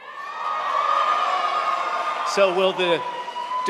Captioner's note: audience cheering